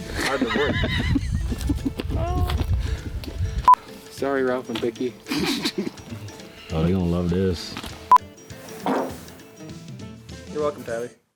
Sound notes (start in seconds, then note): 0.0 group chuckles; 8.6 farts